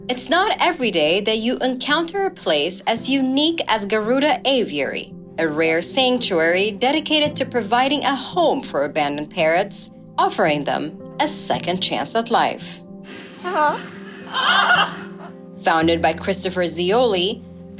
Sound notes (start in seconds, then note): 14.2 parrot squawks